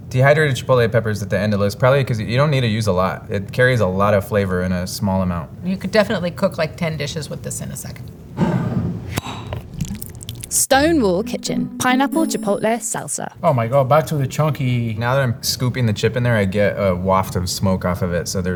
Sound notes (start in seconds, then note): 8.6 jar sliding; 8.6 lid opening; 9.5 salsa pouring